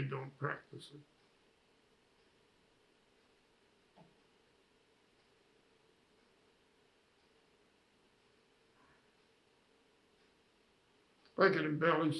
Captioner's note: pauses 10 seconds